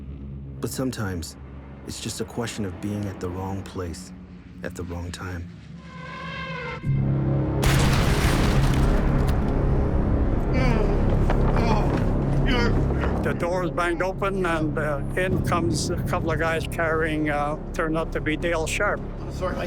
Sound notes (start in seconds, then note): 7.6 explosion; 10.4 groaning